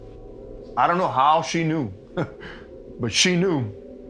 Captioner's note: laughing